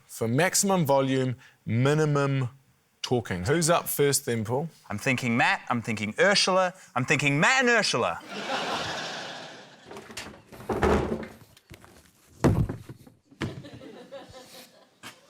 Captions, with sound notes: for maximum volume, minimum talking. Who's up first then, Paul? - I'm thinking Matt, I'm thinking Urzila. I'm thinking Matt and Urzila. (LAUGHTER) (BIN RATTLES) (SOFT THUMP)